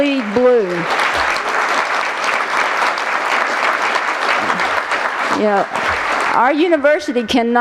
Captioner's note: applause